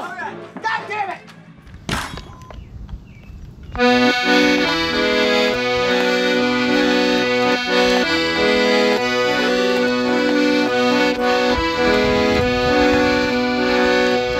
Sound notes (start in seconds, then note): 1.8 door slams; 3.7 accordion music